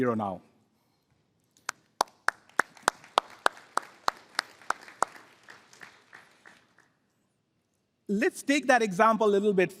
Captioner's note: applause